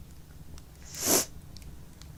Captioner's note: crying sniffle